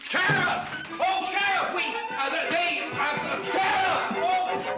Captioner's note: shouting for the sheriff